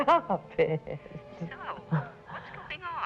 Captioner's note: on phone